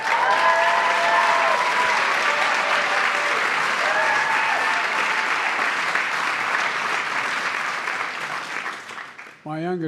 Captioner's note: applause